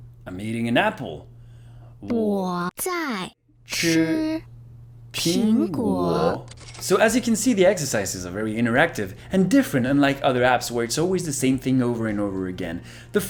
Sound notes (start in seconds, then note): 2.0 speaking Chinese at the same time as the audio